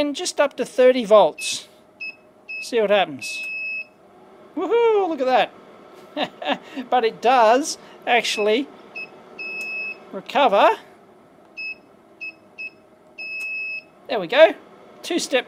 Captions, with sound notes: See what happens. Woohoo! Look at that. But it does actually [ beeps ] recover. [ beeps ] There we go. Two step process as it goes through, maybe, a couple of taps